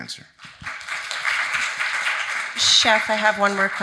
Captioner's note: audience applauding